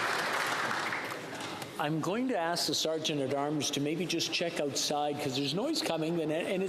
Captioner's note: applause